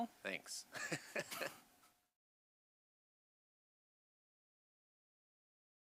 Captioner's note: both laugh